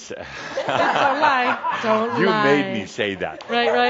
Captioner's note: more laughter